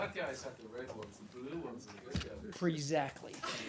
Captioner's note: laughter